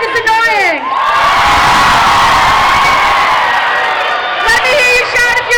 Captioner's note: crowd shouting